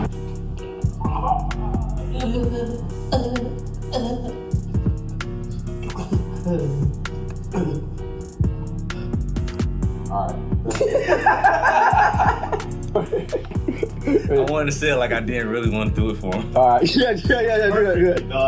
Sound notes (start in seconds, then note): 2.4 convulsing; 10.6 laughing